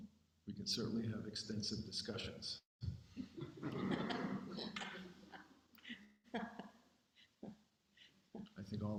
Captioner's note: laughs